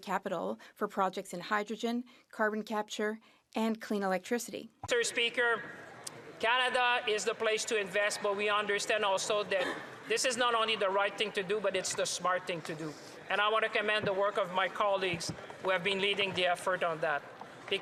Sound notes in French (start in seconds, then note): 8.4 voix de l'interprète